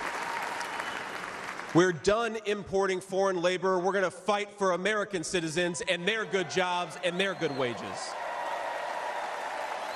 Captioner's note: cheers and applause